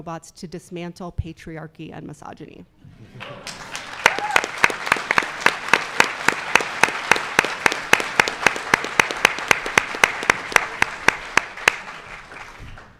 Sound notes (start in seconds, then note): 3.1 audience cheering; 3.1 audience applauding